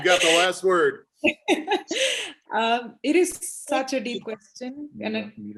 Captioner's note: laughs